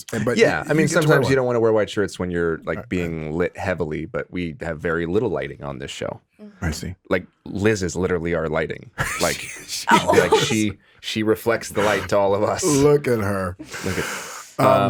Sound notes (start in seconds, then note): 9.0 laughs